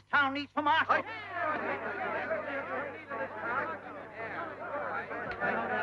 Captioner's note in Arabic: يتحدث الحشد مع بعضهم البعض